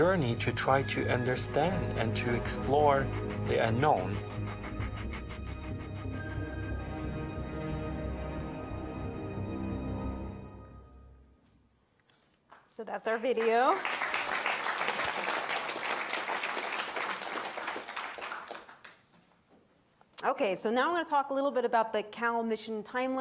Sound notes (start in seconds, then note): 13.3 audience applauds